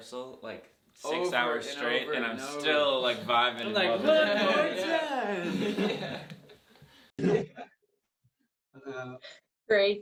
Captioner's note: all laughing